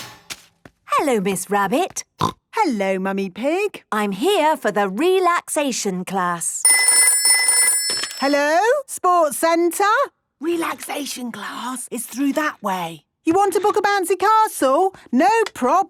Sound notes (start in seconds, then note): 1.5 snorting; 6.6 phone ringing